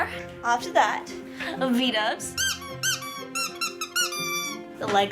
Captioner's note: squeak